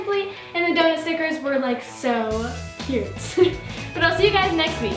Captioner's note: laughs